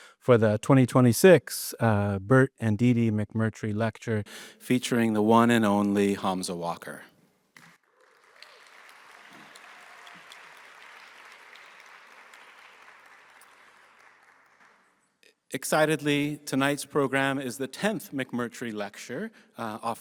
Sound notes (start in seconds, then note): 9.5 audience applauding